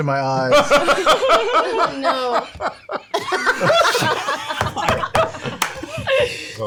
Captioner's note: laughter